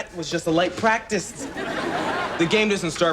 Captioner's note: audience laughs